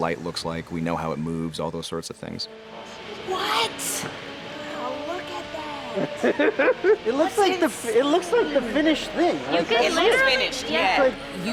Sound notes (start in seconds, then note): 5.9 camera man laughing